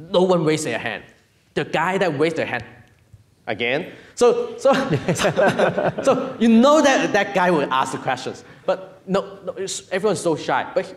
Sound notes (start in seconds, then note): 4.7 laughing